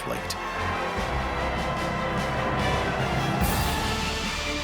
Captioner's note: applause continues